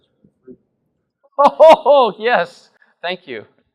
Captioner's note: laughing in agreement